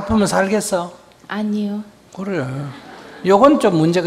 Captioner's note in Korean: 청중 웃음